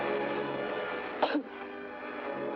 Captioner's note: ominous music; coughs; ominous music